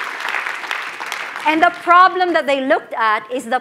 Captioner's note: applause